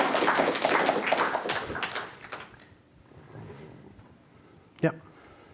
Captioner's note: audience applause